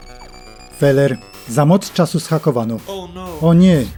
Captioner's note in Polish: pipanie ôd kōmputra